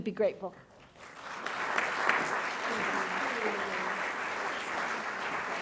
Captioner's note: audience clapping